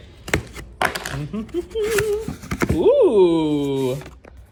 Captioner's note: humming